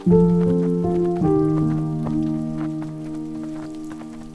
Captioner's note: footsteps on gravel; light rain